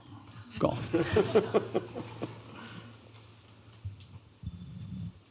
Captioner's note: laughter